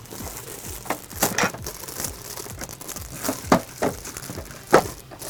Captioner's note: latch clicking